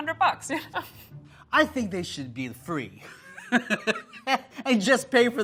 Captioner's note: laughs; laughs